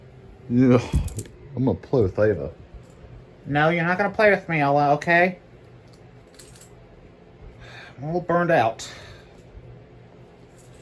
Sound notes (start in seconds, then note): none